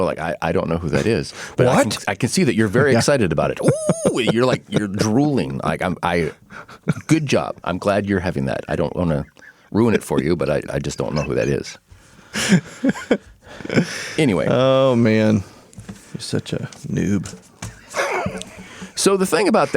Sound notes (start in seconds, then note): 14.9 laughing